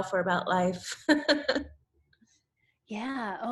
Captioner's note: laughs